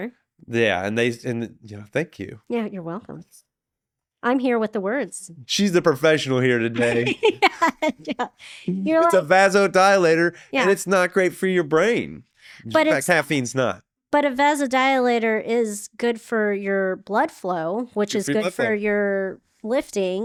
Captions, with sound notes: Yeah, and thank you. Yeah, you're welcome. I'm here with the words. She's the professional here today. (laughing) It's a vasodilator, and it's not great for your brain. In fact, caffeine's not. But a vasodilator is good for your blood flow, which is good for your lifting.